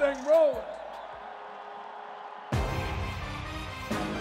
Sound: crowd cheering; hype-inciting music

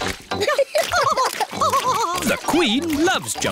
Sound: both laughing

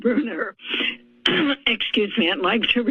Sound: coughs

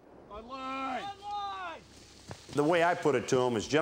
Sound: men shouting

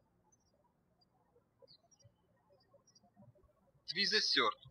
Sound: birds chirping

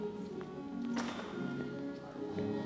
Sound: clattering

